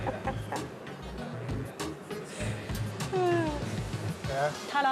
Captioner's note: April laughing